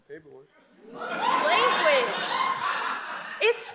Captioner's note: audience laughs